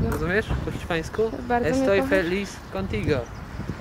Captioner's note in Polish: mówi po hiszpańsku